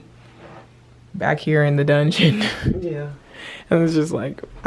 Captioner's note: laughs